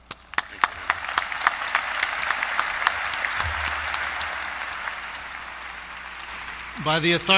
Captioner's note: applause